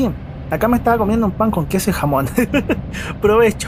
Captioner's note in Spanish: risas